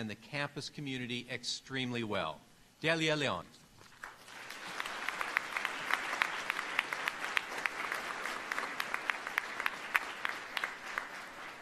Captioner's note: applause